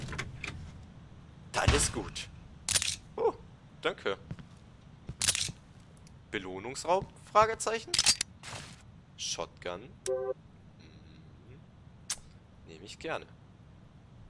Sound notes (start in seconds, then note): 2.4 munition pickup